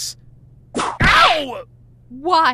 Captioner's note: whip crack